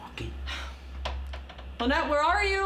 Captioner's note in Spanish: Debra suspira